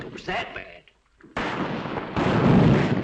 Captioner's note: firing